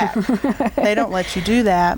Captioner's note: laughing